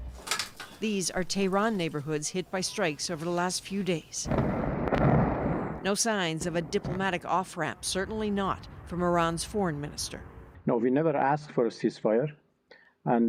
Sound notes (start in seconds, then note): 6.4 bombing